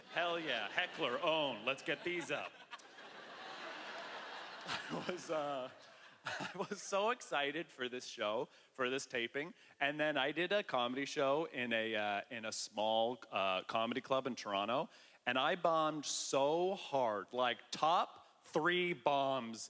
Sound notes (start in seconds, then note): 5.6 chuckling